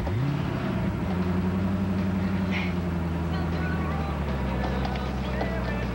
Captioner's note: car starts